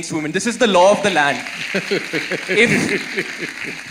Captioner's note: laughter/Applause; Sadhguru Laughs